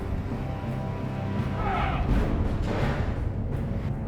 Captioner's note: man yells